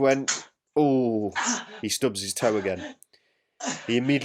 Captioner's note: Baker grunting